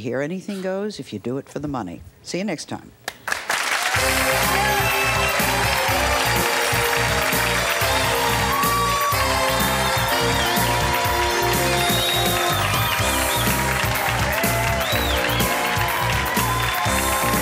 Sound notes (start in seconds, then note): 3.4 audience clapping; 3.4 upbeat music